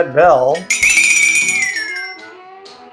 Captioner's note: brzoingingongong